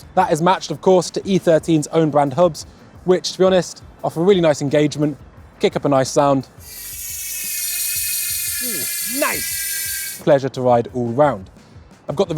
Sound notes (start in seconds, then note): 6.6 tire whirring